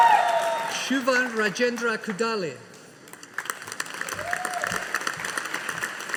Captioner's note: audience applauding